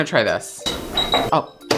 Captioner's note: beeping